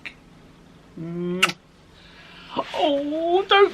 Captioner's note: smooching